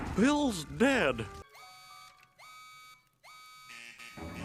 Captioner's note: alarms Goes Off Rapidly